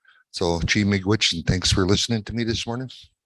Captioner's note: speaks in native language